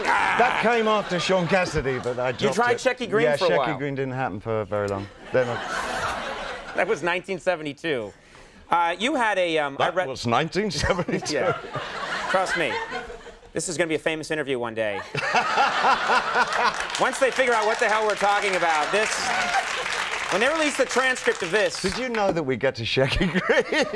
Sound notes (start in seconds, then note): 5.1 crowd laughs; 15.0 crowd laughing; 15.7 crowd applauding